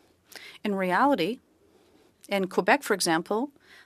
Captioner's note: speaking French